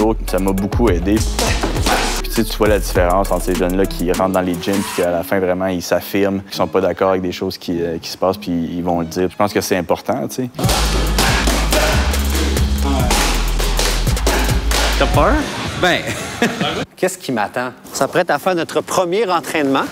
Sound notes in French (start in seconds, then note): 16.0 rires